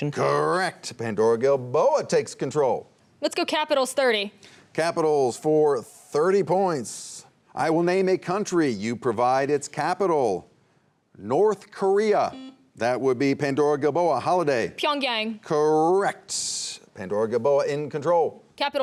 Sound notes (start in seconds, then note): 12.3 buzzer buzzing